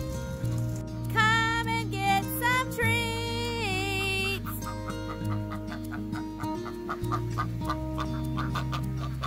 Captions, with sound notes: [sing-song] come and get some treats!